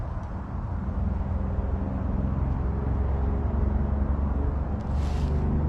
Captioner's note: aircraft noise